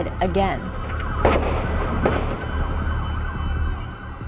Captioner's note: gunshots